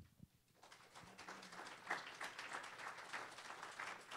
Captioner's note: applause